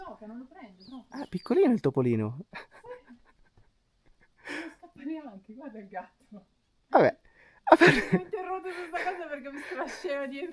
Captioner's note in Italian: risate